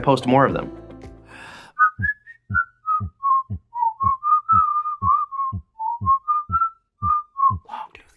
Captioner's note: whistling with logo animation